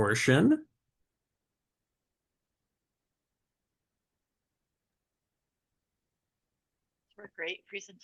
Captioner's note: silence